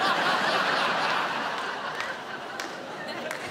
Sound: laughter

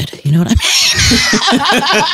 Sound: laughs

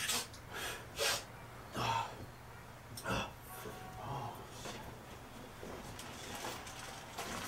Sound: snorts

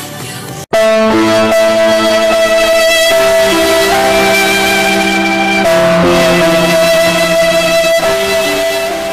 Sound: earrape

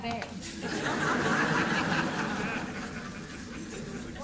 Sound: laughter

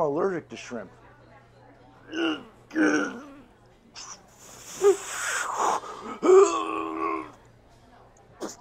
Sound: struggle noises

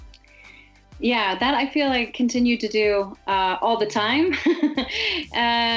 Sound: laughs

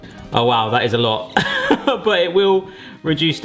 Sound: laughs

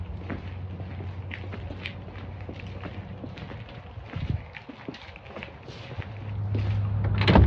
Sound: footsteps continue; basement door opening

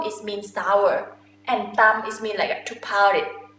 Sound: talking in foreign language

